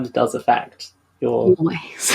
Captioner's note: whispers